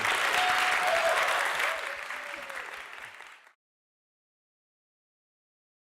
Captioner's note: applause and cheering